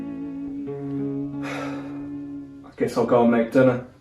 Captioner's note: sigh